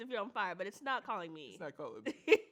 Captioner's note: chuckles